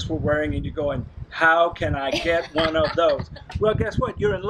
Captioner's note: laughing